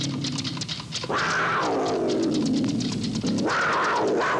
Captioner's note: tiger roaring